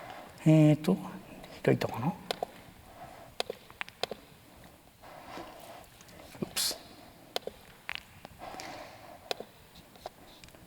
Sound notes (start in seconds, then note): 0.2 click; 3.2 silence; 3.4 click